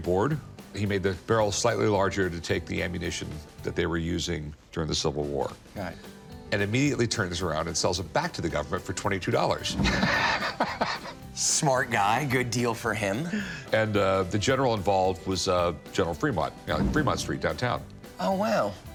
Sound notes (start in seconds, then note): 9.8 laughs